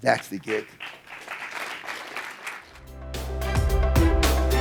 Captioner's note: audience applauding; uplifting music